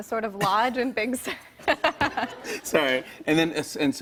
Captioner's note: both laugh